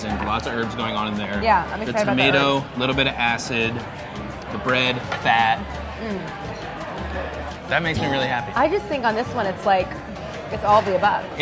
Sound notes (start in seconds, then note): 7.9 bell dinging